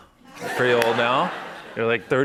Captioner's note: laughter